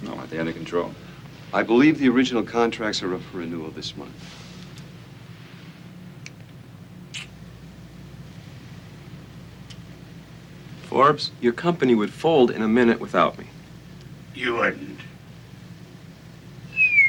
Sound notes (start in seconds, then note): 7.1 Casey clicks tongue